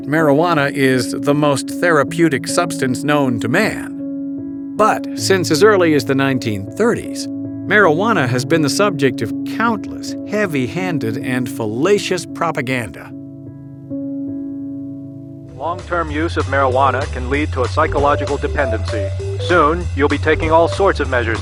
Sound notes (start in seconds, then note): 0.0 voiceover; 16.3 voiceover